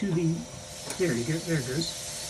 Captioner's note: compressor whirs